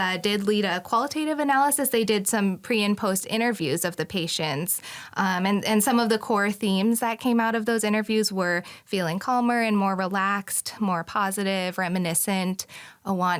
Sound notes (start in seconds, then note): none